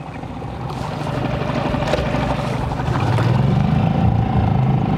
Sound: motor rustling

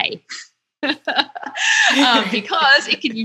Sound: laughing

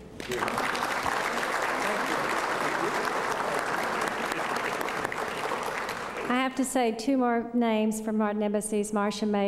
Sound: applause

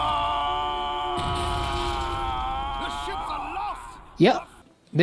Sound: lots of yelling

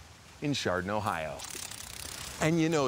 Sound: wings clicking

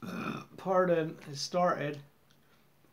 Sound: burp

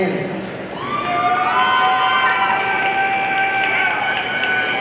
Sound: audience cheering

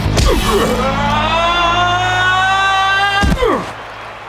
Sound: yelling

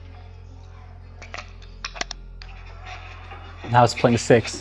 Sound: device clicks

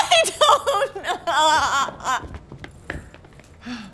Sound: sobbing

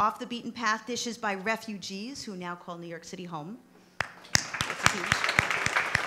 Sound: applause

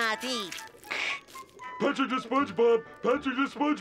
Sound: imitating radio static

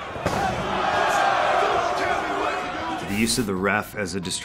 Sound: crowd booing

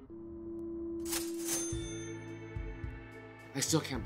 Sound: cash register jingling

